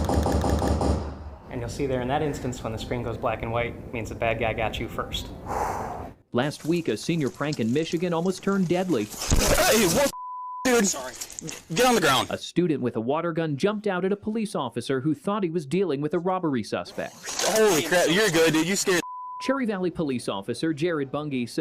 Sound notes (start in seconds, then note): 5.4 exhale